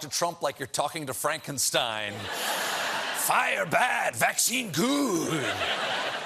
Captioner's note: laughter